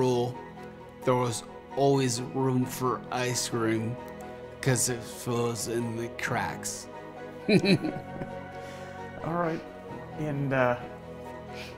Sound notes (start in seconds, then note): 7.4 chuckles